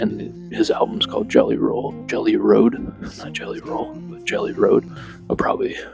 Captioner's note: chuckles